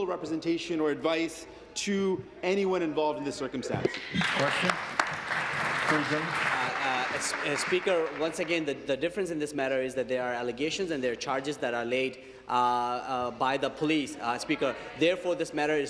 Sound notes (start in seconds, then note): 9.6 applause